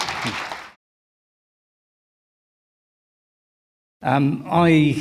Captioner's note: applause